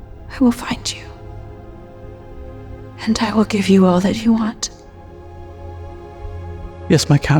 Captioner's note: none